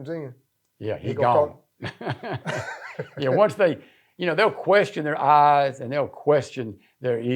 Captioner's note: laughing